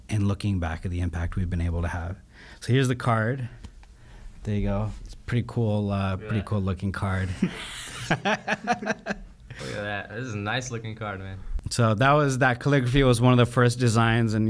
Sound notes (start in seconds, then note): 7.2 laughing